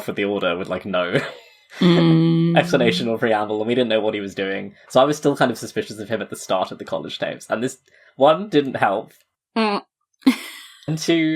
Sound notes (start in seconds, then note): 2.5 laughs